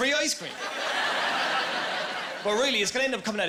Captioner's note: laughing